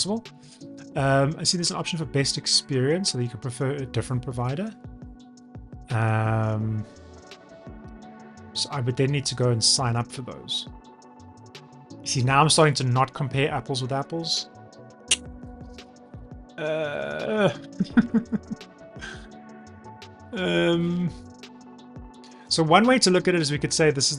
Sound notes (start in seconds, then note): 14.9 groans